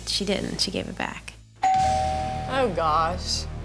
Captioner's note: doorbell rings; dramatic music